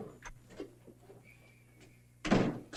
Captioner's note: door thuds